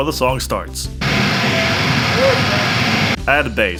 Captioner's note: feedback noise